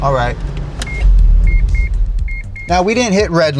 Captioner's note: car beeping